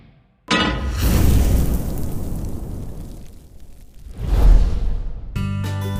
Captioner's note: pan clanks; fire whooshes